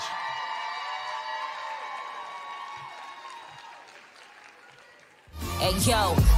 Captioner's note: applause